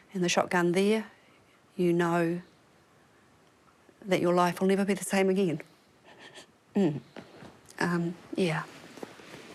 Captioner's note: breathes shakily